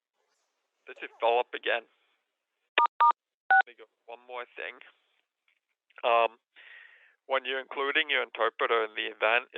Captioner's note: phone beeping